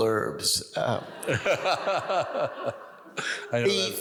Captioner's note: audience laughs